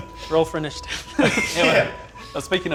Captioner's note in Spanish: Risas